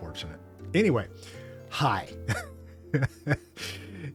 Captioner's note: laughs